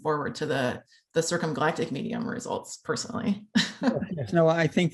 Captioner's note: laughter